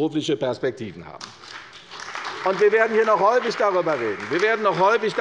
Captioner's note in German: Beifall bei der CDU und dem BÜNDNIS 90/DIE GRÜNEN